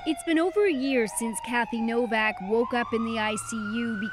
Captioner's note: sirens